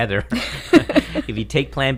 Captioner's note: laughter